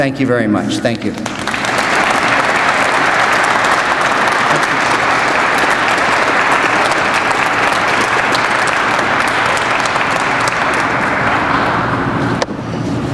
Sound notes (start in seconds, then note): 3.1 crowd applauds